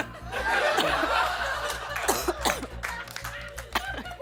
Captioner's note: laughter; coughs; laughter